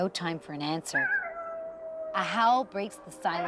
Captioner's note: coyote howling